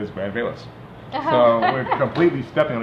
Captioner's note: laughs